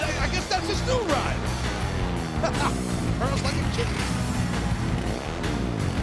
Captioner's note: laughs